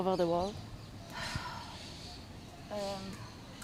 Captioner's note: sighing